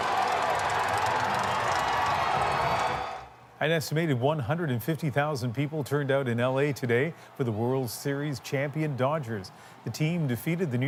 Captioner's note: cheers and applause